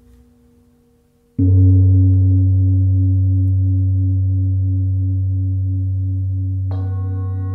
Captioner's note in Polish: gong; dźwięki uderzenia w misy